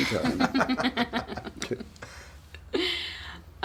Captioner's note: laughter